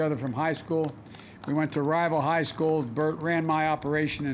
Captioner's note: applause